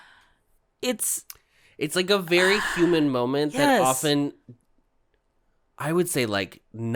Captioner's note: sigh